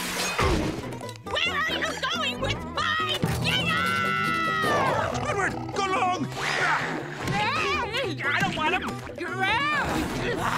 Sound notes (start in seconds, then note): 4.6 grunting